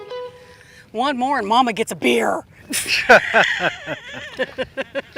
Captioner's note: laughter